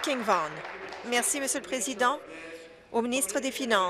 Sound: some Applause

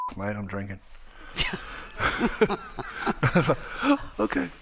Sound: Margaret laughing

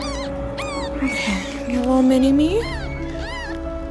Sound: meows

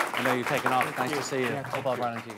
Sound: applause

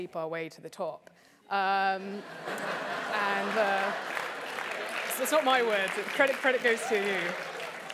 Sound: laugh

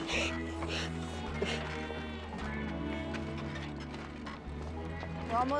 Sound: panting

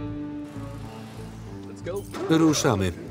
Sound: starts car

